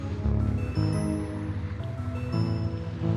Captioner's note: distant waves lapping